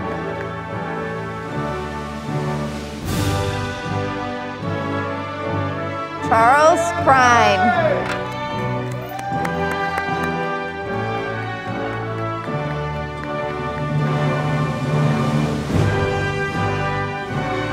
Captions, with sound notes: Charles Krein, (audience applauding)